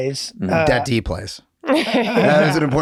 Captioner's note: laughs